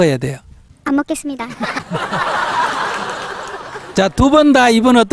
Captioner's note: audience Laughter